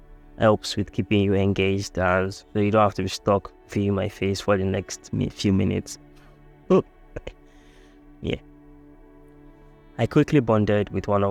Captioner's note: laughs